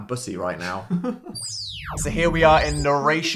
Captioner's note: laughing